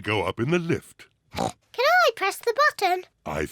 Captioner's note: oinks